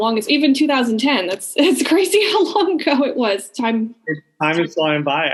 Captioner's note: laughing